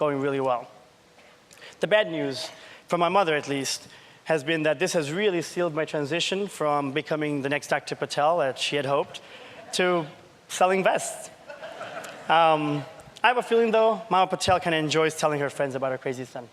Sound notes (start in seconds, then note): 11.4 laughter